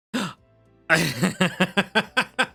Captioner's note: laughs